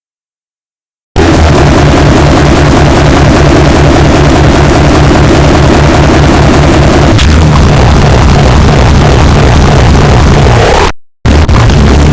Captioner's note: yelling Earrape